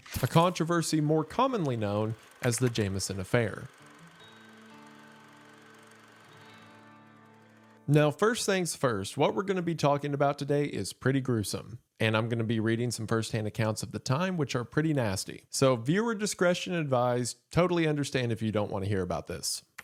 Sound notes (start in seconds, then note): 4.0 eerie music plays; 4.0 film reel clacking